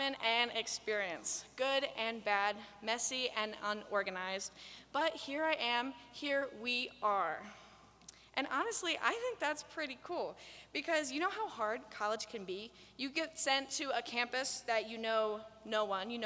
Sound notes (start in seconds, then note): none